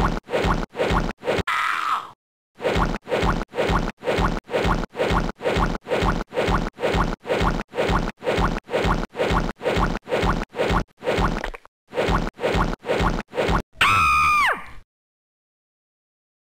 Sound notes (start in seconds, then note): 13.8 shrieks